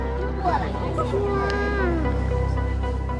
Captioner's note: daughter exclaiming